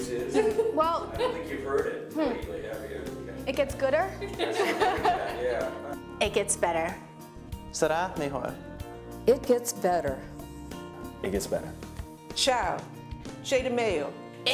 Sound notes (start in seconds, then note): 4.2 laughter